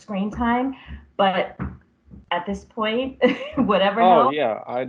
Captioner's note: laughs